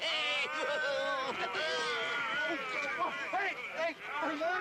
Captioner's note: Malachi laughing; Nabu moaning